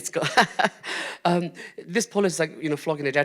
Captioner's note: chuckles